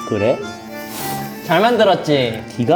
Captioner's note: upset